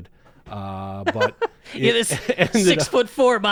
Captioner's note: laughs